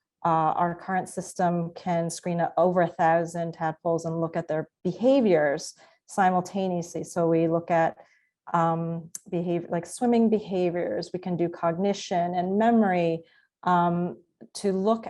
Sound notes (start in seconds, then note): none